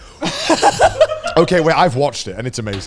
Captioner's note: guys laugh